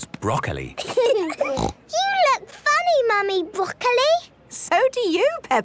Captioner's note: laughing, snort